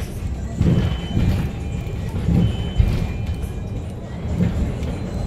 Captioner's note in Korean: 하차벨 소리